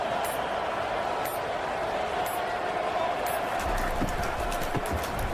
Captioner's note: crowd Noises